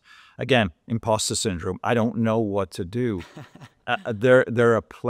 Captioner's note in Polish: śmiech